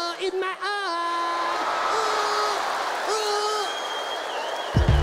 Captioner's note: audience laughs